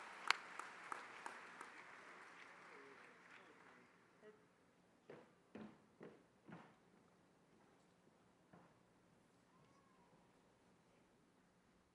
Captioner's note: applause